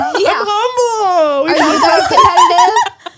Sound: everyone laughs

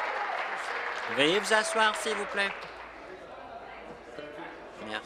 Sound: applause

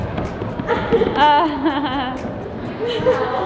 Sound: laughs

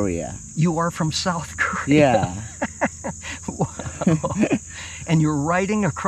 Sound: laughing

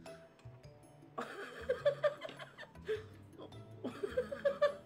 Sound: laughing

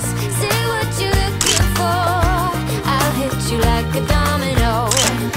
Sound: upbeat music; camera clicking; upbeat music; camera clicking

